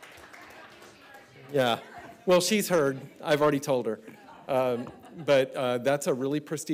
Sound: applause

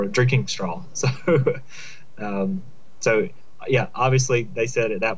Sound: laughter

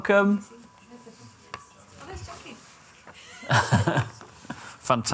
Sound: IT support talking in background; laughter

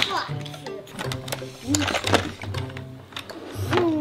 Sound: toys rustle

